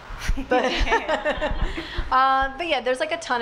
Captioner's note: laughs